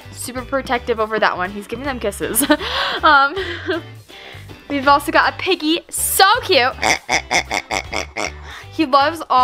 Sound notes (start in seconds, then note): 2.4 laughs; 6.6 pig oinks